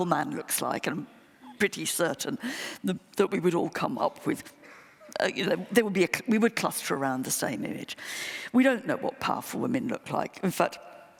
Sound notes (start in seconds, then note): none